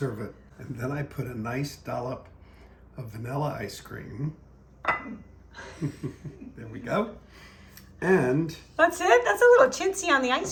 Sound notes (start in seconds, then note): 4.8 ice cream clinks into plate; 5.5 father chuckles